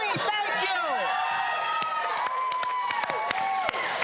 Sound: applause

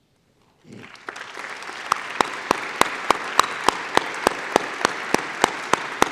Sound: applause

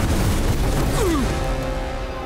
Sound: grunting

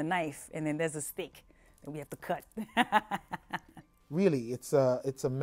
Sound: laughs

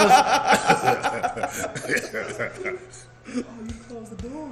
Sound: laugh

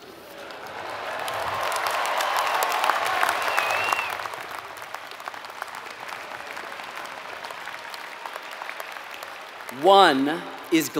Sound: applause

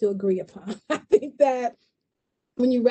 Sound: laughs

